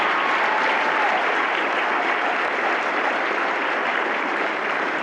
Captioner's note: applause